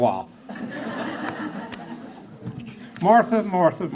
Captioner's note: laughing